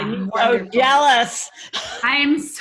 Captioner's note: laughs